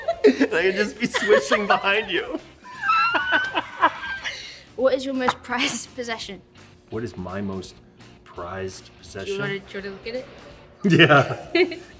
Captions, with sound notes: I can just be swishing behind you. (LAUGHTER) "What is your most prized possession?" What is my most prized possession? Do you want to try to look at it? (CHUCKLES) Yeah.